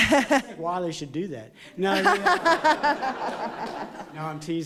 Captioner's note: laughter